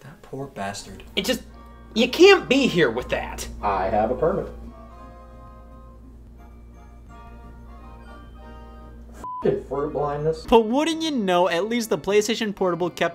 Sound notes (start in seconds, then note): 7.4 light music; 9.2 beep